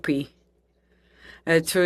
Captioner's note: speaking French